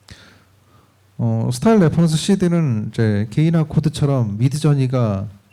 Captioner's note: speaking korean